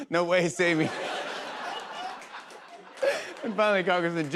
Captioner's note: laughter